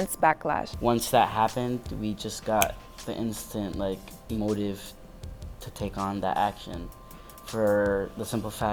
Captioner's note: finger snap